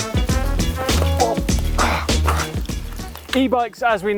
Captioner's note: upbeat music; grunt